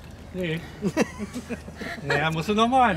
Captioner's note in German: Gelächter